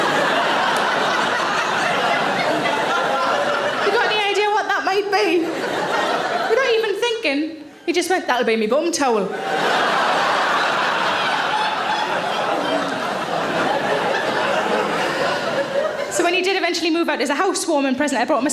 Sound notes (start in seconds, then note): 0.0 audience laughing; 9.3 audience laughing